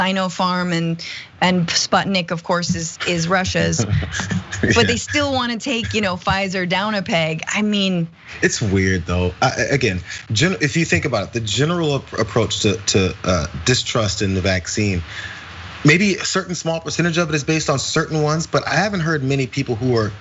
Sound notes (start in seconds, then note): 3.0 laugh